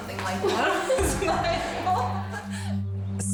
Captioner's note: contestants laughing